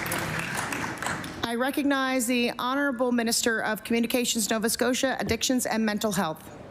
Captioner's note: applause